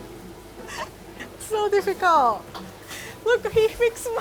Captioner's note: chuckling